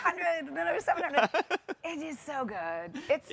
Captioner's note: chuckling